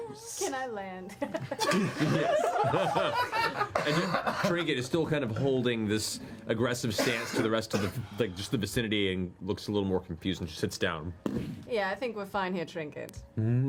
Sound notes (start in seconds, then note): 1.3 all laugh